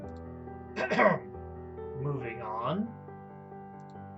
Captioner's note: clears throat